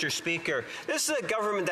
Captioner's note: speaking French